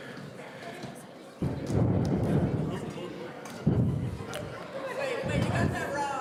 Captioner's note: people in the audience conversing